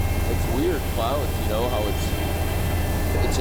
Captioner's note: chopper noise